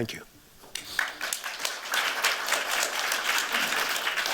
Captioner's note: applause